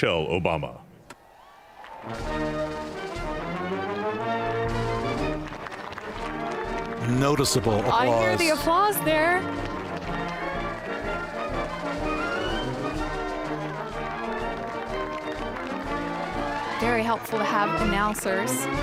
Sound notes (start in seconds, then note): 13.9 applause